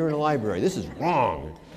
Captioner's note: laughter